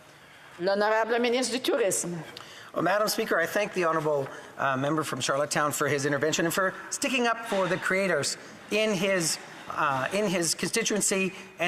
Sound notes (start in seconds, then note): 5.4 speaking French